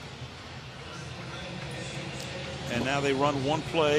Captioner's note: pa announcement